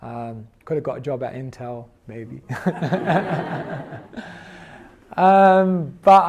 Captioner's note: laughs